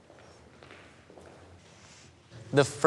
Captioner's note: footsteps scuffing